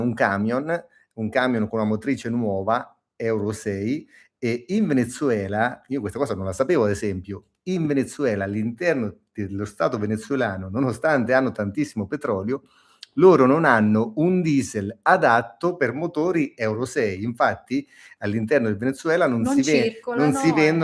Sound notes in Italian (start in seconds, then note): none